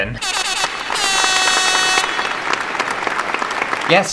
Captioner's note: air Horn & Applause